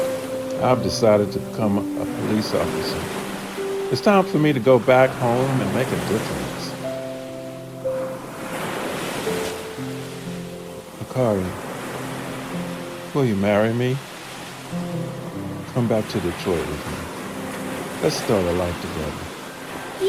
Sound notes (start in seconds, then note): 8.5 soft music continues; 8.5 waves crashing